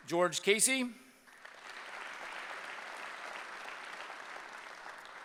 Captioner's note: applause